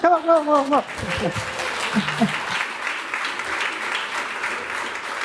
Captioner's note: applause